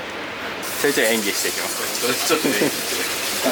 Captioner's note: laughs